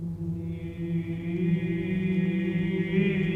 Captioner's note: chanting